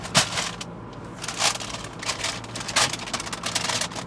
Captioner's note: bag crinkling